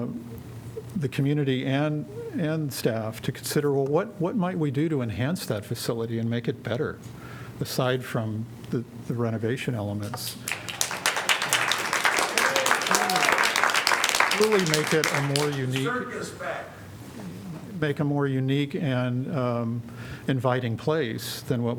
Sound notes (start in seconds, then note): 10.0 applause